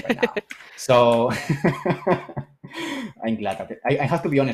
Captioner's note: laughter